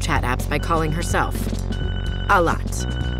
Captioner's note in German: Telefonklingeln